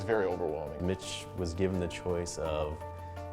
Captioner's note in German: Voiceover